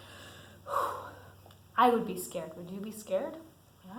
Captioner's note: sighs